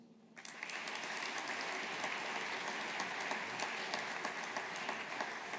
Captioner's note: audience applauding